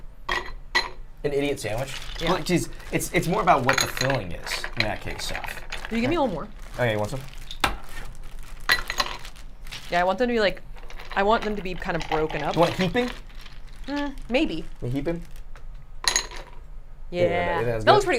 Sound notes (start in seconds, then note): 0.3 ice clinking; 6.7 smashing ice; 8.6 ice clinking; 16.0 ice clinking